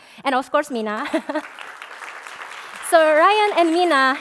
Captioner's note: applause